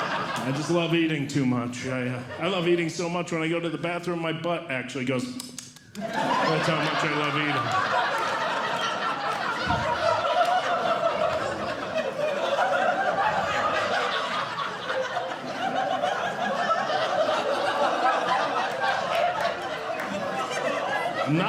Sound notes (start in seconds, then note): 0.0 audience Laughing; 5.4 tsking Sound; 5.9 audience Laughing